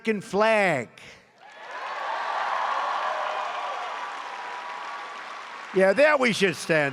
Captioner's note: applause